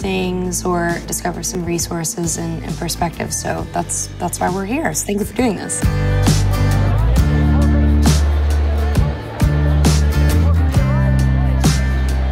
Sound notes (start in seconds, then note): 5.9 people chattering